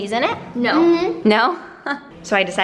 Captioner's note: laughs